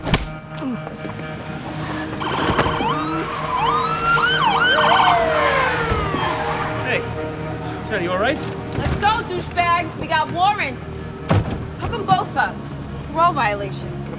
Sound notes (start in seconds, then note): 0.0 punch thuds; 1.1 sirens wailing